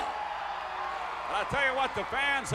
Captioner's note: crowd cheering